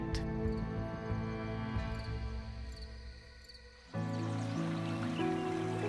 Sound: cricket chirps; soft music

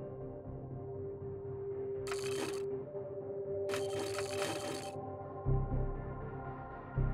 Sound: phone ringing

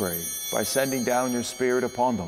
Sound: chimes ringing

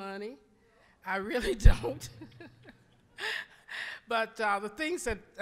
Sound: laughing

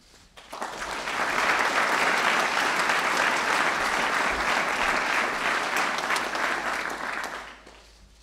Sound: applause

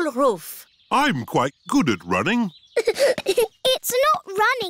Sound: giggling

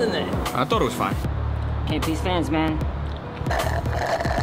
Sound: sips drink

